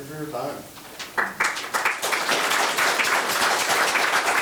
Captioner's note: members applauding